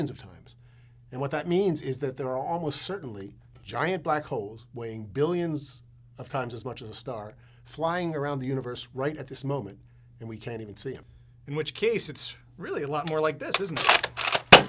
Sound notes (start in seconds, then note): 14.5 bang